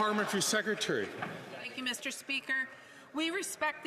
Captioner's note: some Applause